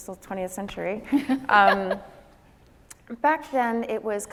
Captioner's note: laughing